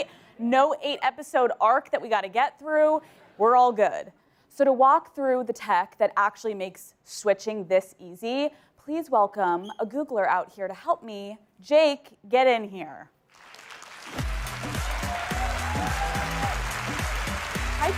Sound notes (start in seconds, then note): 13.2 applause; 14.1 upbeat music